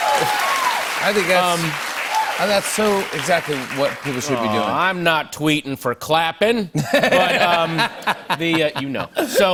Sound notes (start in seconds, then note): 6.7 laughter